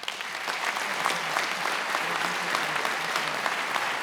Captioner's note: attendees applauding